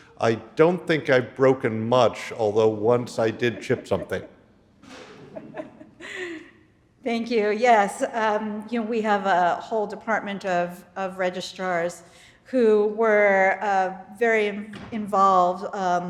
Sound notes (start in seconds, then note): 4.9 audience laughing